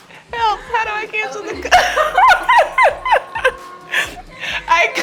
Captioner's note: laughing